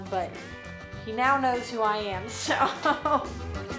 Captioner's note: chuckles